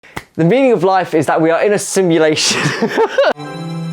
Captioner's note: laughs